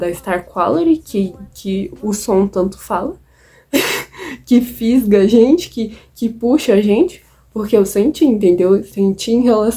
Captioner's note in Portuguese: risos